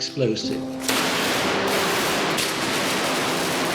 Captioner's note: booming